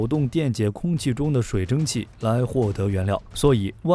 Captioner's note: electricity